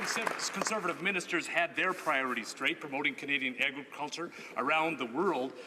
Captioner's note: some Applause